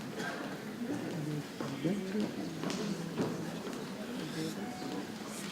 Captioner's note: people chattering softly